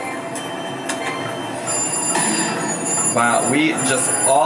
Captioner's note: slot machine dings